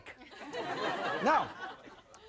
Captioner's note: audience laughing